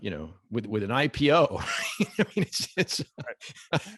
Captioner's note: laughs